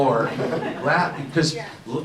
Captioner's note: audience laughs